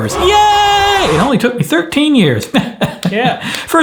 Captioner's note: chuckles